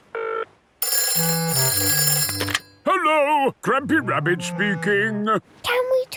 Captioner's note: phone ringing